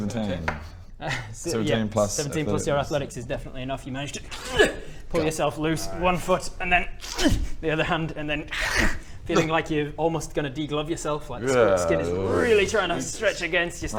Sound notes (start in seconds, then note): 5.7 hrrgh; 8.6 krrch